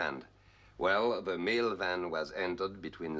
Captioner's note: none